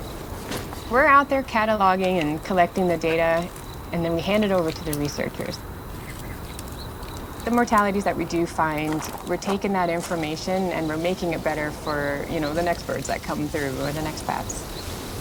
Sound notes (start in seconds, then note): 5.9 birds chirping